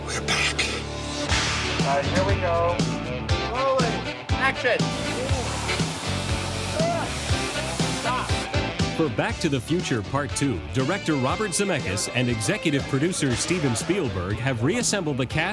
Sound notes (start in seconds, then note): 1.3 sign crashing; 6.1 fan blowing